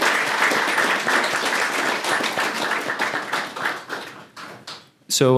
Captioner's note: applause